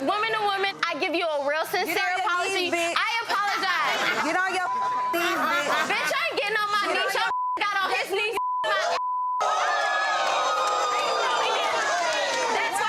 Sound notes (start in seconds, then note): 4.6 beep; 7.2 beep; 9.4 audience cheering